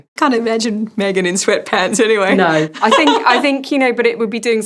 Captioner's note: laughs